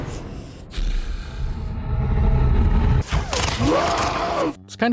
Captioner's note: Hulk Growling and Roaring